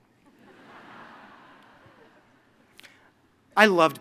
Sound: laughter

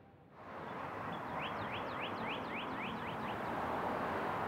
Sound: birds chirping

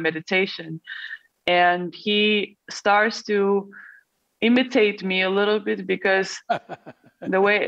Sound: Sadhguru laughs

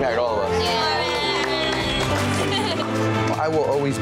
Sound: clapping

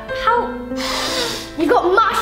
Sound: sniffs

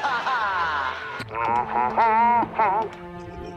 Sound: humming

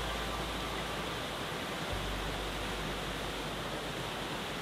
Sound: water rushing

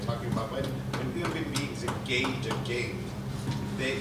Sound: speaks faintly

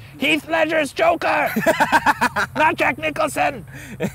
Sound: laughing

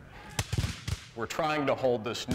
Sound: gunfire

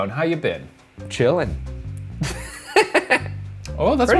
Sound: laughs

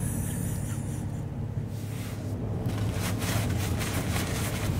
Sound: cameraman laughs

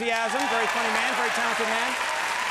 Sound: audience cheers and applauds

